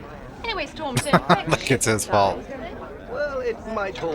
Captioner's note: chuckling